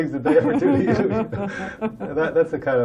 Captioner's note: laughter